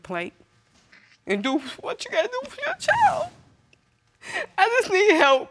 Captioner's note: sobbing